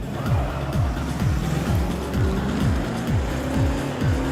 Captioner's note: car screeches away loudly